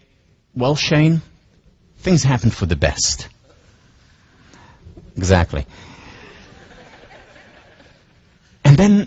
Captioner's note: laughs